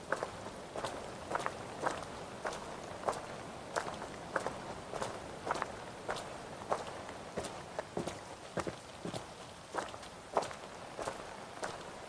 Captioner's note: footsteps